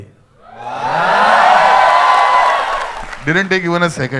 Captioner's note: crowd applauding